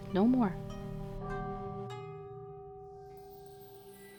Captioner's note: temple bell